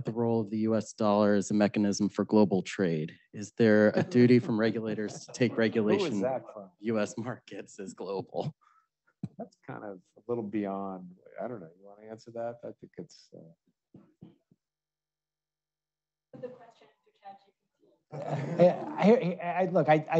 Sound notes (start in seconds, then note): 16.7 audience member chattering